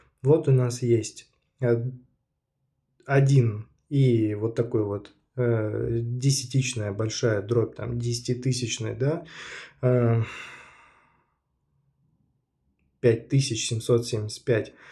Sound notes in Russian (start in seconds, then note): 9.3 вздыхает